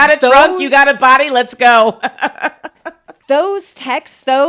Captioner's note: laughs; laughs